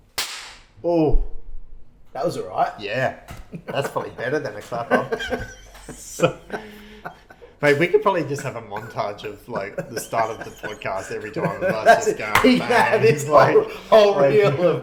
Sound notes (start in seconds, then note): 0.1 hands clap; 4.5 laughs